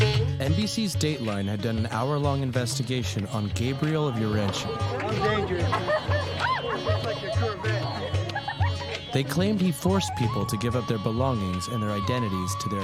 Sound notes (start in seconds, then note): 4.7 woman Laughs; 4.7 女人笑; 7.8 女人咯咯笑; 8.8 woman Giggles